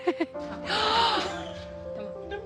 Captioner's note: gasps